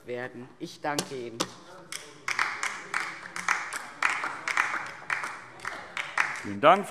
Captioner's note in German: Beifall DIE LINKE